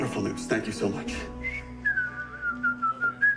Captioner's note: whistling